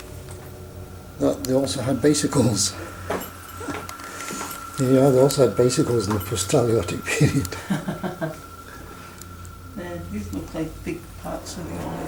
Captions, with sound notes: they also had bicycles! There you are they also had bicycles in the post-talaiotic period! [laughs]